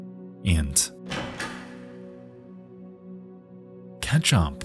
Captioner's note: door opens